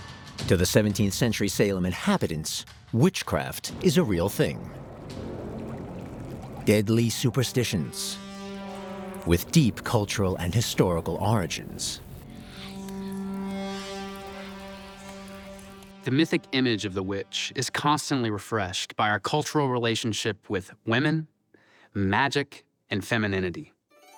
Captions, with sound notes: To the 17th century Salem inhabitants, witchcraft is a real thing. (bubbling sounds) Deadly superstitions, with deep cultural and historical origins. (eerie whispering) The mythic image of the witch is constantly refreshed by our cultural relationship with women, magic, and femininity.